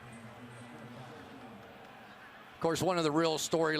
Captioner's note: pa announcement